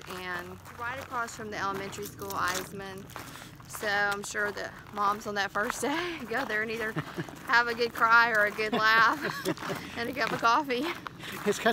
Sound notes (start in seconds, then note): 8.5 laughs